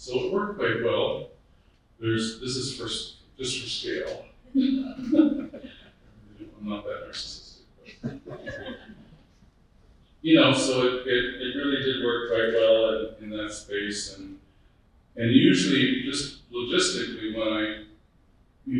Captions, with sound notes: So it worked quite well. This is for just for scale. (person laughing) I'm not that narcissistic. (group laughing) You know, so it really did work quite well in that space. And usually just logistically when I,